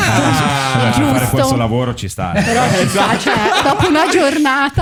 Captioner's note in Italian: laughter